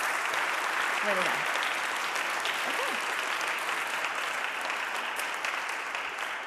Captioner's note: audience applauding